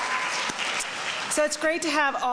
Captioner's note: applause